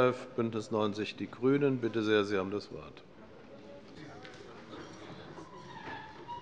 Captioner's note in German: none